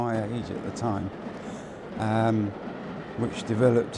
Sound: train rattling

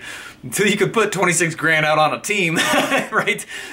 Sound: laughing

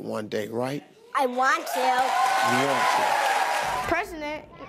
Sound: audience cheering

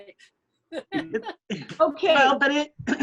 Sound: laughs

